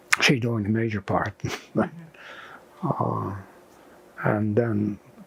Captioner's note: laughing